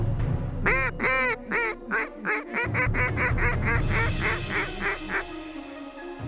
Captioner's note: duck calls